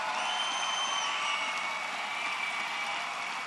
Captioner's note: applause